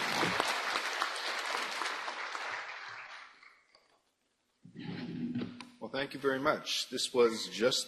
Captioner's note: applause